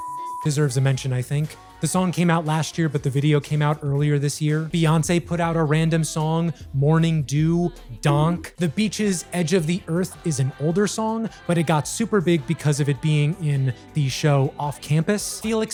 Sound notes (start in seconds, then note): 7.9 donk